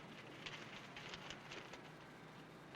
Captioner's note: paper rustles